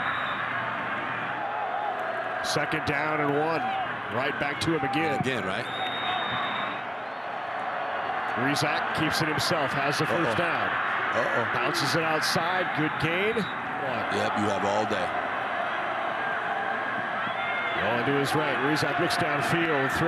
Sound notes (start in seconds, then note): 0.0 referee blows whistle; 5.6 referee blows whistle